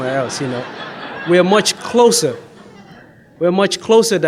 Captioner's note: audience laughs